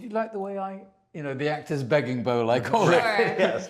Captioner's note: laughs